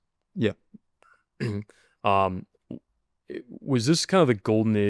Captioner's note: clears throat